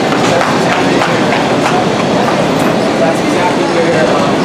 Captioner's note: passers-by chattering